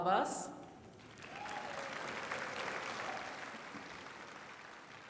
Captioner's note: applause